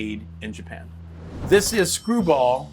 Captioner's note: cash register dings